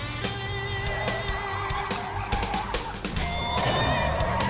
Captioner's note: tires screech